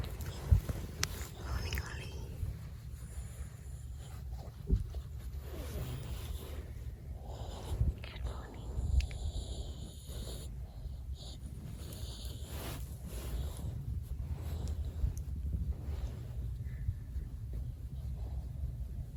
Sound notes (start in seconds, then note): 1.1 whispering; 4.5 Ollie quietly sighs and grunts